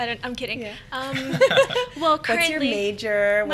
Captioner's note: laughing